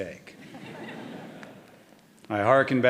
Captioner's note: audience laughing